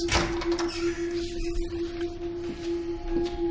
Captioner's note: door opening